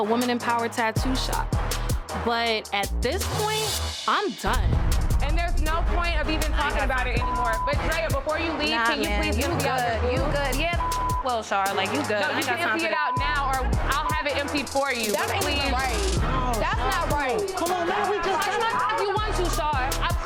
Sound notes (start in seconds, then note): 12.8 beeps